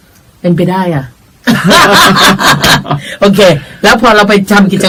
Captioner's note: both laughing